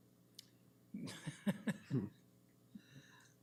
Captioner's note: chuckles